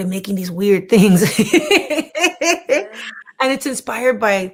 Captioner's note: laughing